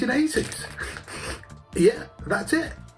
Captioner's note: sniffing